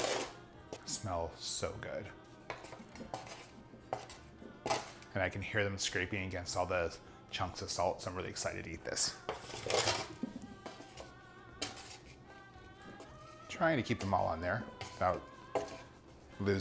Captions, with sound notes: Smell so good. (scraping tin) And I can hear them scraping against all the chunks of salt, so I'm really excited to eat this. Trying to keep them all on there without losing 'em.